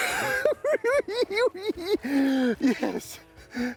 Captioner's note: cackling